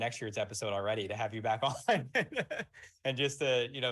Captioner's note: laughs